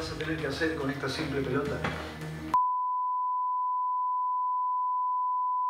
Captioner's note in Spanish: Bip